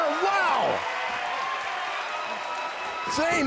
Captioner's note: crowd cheering